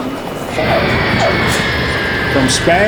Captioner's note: airplane engine